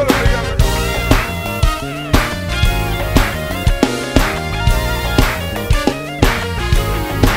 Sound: funky music; people clap rhythmically

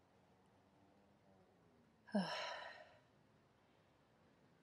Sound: nyx sighs

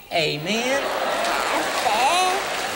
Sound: applause

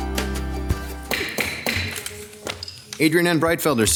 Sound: gavel taps

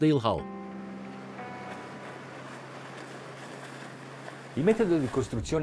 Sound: relaxing guitar music; waves roaring; speaking in Italian

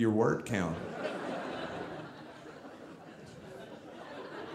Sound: audience laughing

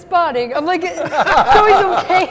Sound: laughter

